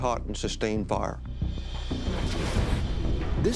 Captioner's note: whoosh